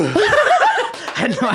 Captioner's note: laughing